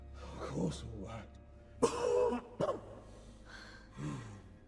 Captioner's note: coughs